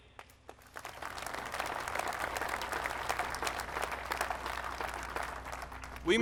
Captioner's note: applause